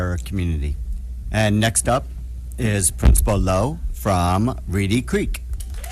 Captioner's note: applause